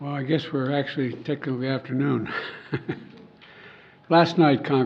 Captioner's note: laughs